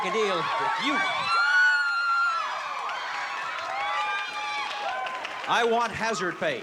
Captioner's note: cheering